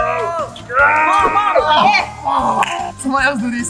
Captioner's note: shouting